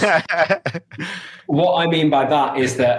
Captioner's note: laughing